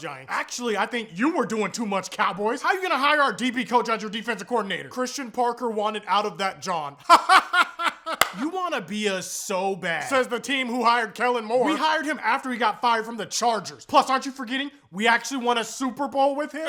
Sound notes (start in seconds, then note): 7.0 laughing